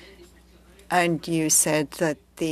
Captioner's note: speaking French